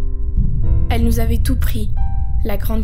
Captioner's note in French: Explosion sourde